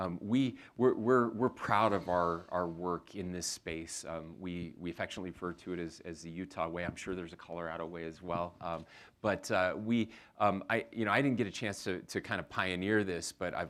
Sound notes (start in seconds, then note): none